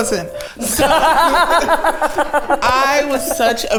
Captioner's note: everyone laughs